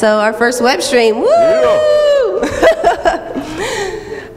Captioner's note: cheers